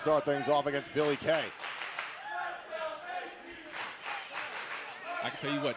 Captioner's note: crowd cheering